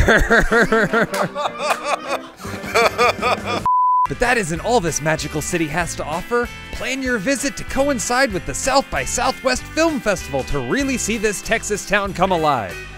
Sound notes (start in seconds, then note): 0.0 laughs; 0.0 trying not to laugh; 3.0 laughs louder; 3.6 beep